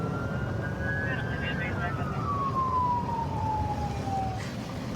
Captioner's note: police sirens blaring; dispatch chatter